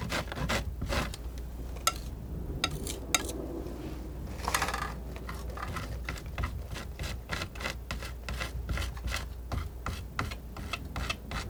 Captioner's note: scratching